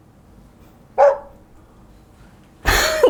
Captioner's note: woof